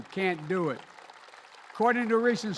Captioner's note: applause